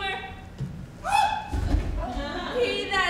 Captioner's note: Katharina cries out